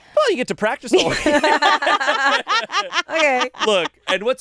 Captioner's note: all laugh